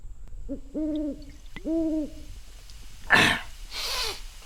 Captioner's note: owl hooting; Dogmouth gasps